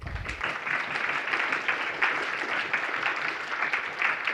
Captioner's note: audience clapping